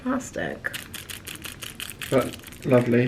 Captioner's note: packet rustling